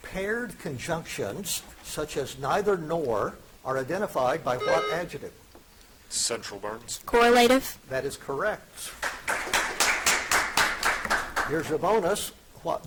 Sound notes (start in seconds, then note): 4.6 buzzer chiming; 8.9 audience applauding